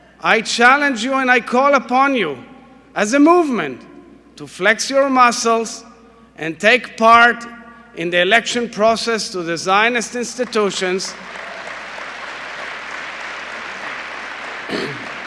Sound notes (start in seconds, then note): 10.4 applause